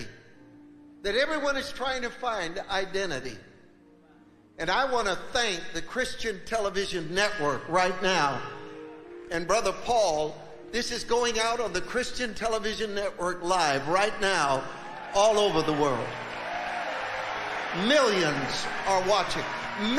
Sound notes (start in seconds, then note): 16.3 congregation cheering